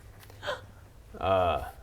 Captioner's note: gasp